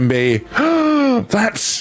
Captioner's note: gasps